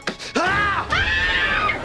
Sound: screaming

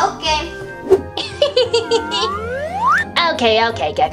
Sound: professor laughs

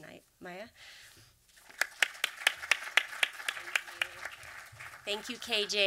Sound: applause

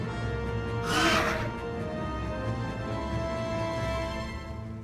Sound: dinosaur roar

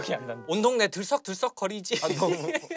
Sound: bursts out laughter

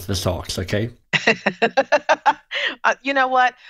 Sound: laughing

